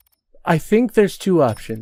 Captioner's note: thinking noises